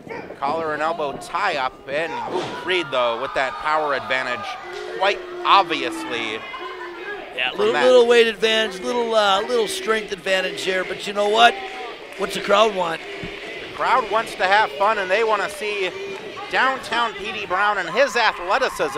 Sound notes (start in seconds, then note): 11.2 crowd cheering "Petey!"